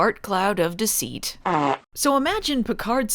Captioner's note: farts